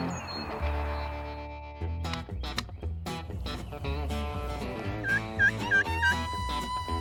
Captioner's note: upbeat country music; turkey calls